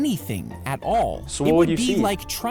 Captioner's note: laughing